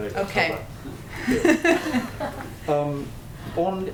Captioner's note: laughs